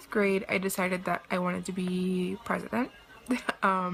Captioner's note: chuckles